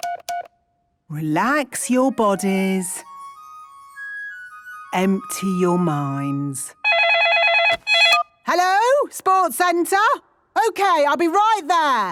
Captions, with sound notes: Relax your bodies. Empty your minds. (phone ringing) Hello?! Sports centre! Okay, I'll be right there!